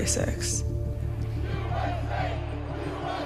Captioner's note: crowd chanting